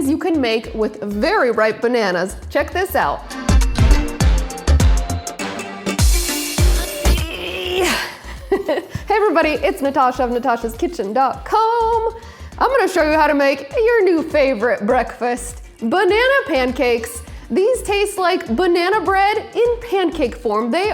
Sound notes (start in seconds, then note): 4.1 upbeat music; 7.2 grunts